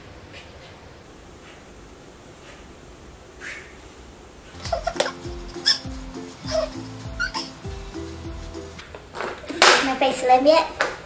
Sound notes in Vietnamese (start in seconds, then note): 4.5 Xẹt Xẹt